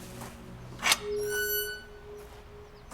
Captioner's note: gate squeaks